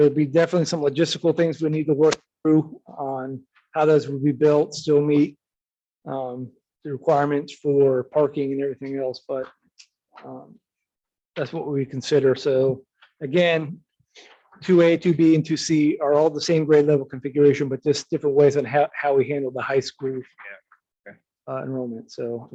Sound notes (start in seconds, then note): none